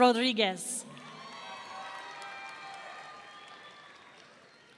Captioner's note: audience cheering